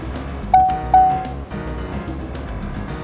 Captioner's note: seat belt fasten warning tone